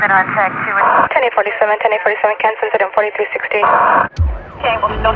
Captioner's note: pice radio spatch